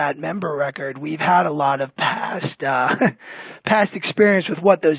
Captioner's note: laughs